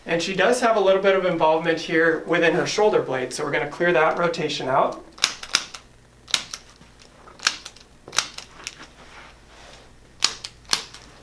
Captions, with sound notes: And she does have a little bit of involvement here within her shoulder blades. So we're gonna clear that rotation out. (tool clicking)